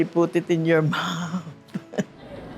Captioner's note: chuckles